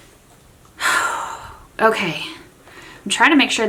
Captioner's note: sighs